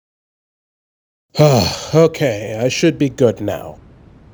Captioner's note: sigh